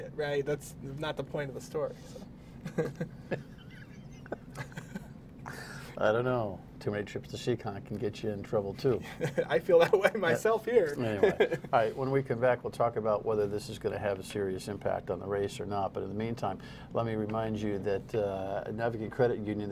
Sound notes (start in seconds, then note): 9.0 laughter